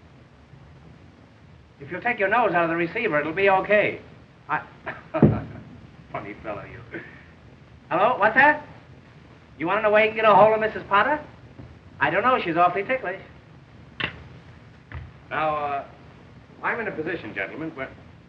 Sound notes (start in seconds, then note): 4.8 chuckling